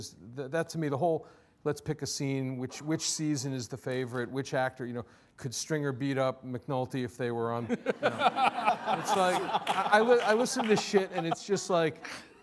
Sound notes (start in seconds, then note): 7.7 all laughing